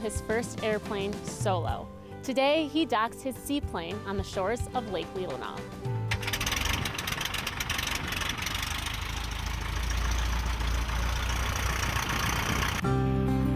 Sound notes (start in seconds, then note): 6.0 engine starting